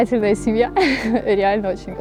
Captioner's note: laughs